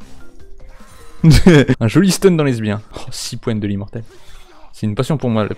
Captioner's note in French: Rire